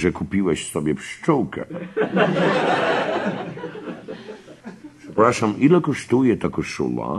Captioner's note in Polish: śmiech